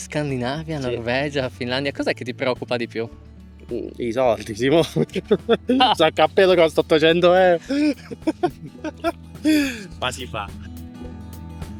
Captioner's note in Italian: risate